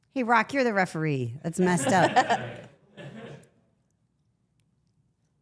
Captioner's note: everyone laughs